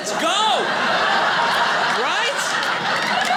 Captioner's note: audience laughing